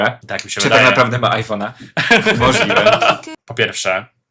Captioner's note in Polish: śmiech